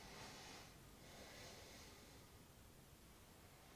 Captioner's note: exhaling